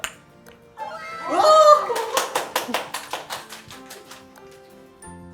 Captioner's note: applause